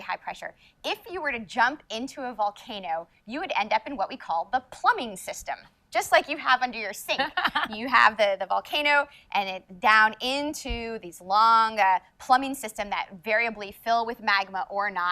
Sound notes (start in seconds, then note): 7.1 laughs